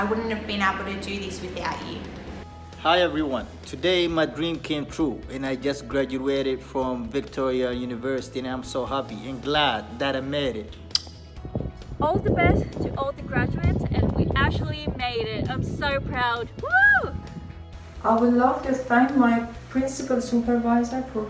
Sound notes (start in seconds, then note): 10.8 smacks lips